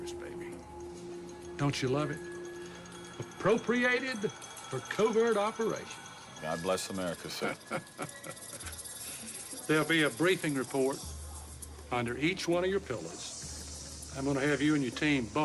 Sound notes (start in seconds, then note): 8.4 laughing